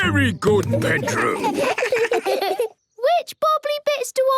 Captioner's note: children giggle